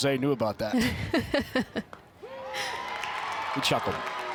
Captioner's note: chuckles